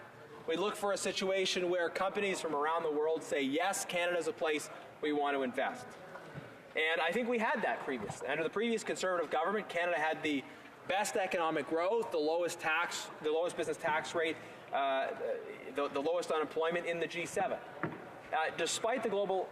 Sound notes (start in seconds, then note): none